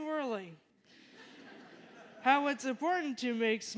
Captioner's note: laughter